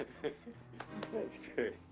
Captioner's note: chuckling